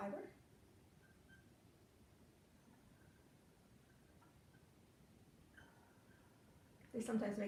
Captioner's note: tahkli whirring